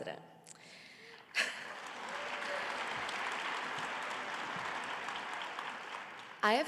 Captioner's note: audience cheering and applauding